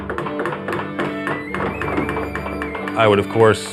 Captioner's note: hammering